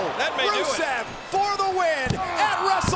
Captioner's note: hands thudding